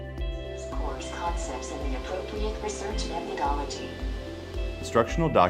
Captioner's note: text-to-speech software reading a document aloud